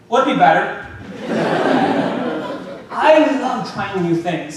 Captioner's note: audience laughing